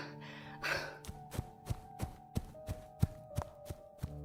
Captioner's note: panting; running